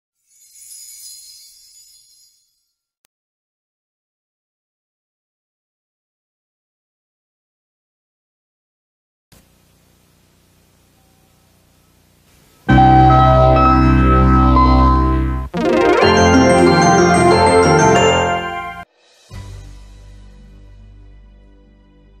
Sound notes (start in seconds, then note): 0.2 chimes twinkling; 4.5 silence; 9.3 VHS static on television; 12.7 80s synthesizer music playing; 15.6 80s synthesizer music plays; 19.0 soul music playing